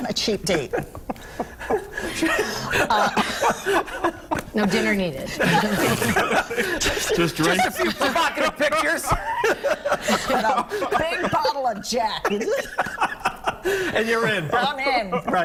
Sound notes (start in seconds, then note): 10.2 laughter